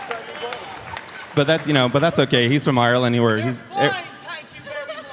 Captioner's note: applause